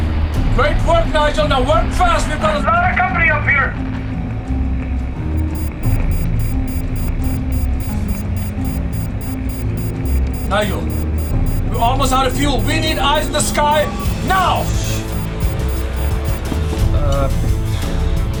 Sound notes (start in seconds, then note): 5.2 beeping